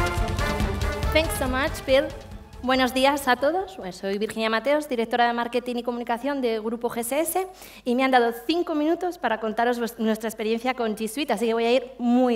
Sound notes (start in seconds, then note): 3.5 speaking spanish